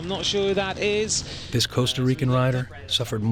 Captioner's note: voiceover